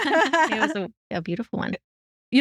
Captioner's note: both Laughing